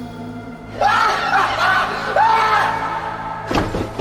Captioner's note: unhinged laughter